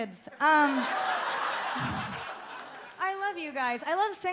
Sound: audience laughs

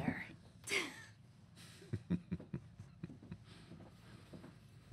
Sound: quiet chuckling

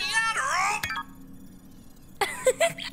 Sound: sound muted

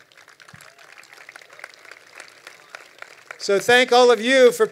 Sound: crowd applauding

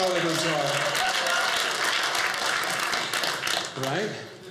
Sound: audience cheering

